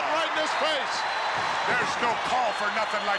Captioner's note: crowd cheers